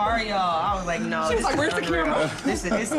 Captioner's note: laughs